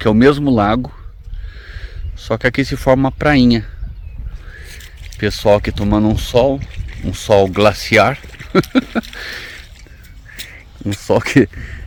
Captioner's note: laughs